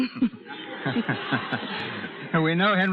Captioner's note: audience laughs